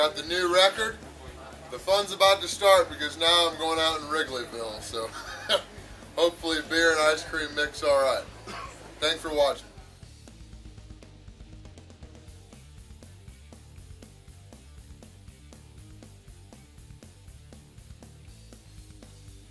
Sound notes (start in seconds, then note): 5.0 laughs